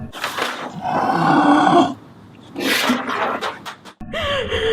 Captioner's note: growling; Sheila sobbing